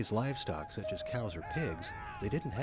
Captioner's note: man yell